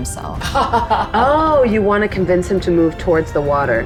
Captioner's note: laughs